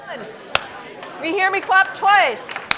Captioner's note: claps; scattered people clapping